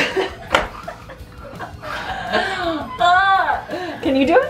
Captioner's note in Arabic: يضحك ويتأوه